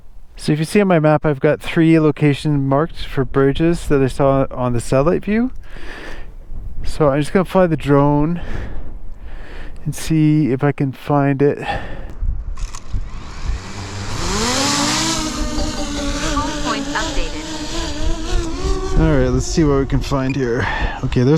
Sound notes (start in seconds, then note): 12.7 drone whirring